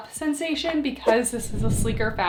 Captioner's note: screen whooshing